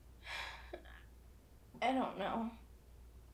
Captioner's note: sighing